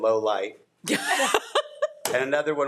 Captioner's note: laughing